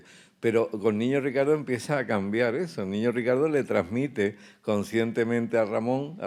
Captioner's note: speaking in Spanish